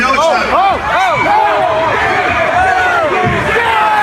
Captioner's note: audience Commotion